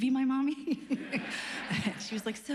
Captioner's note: laughs